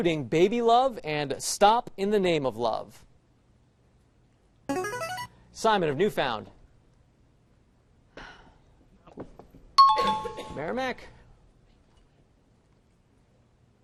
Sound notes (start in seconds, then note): 4.8 buzzer; 9.8 chiming